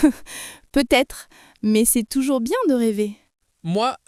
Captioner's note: laughs